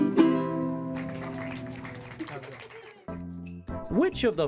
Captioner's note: applause